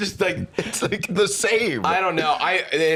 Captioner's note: laughing